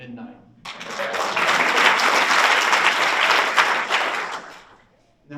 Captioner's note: audience applauds